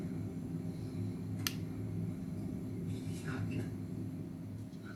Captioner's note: light switch click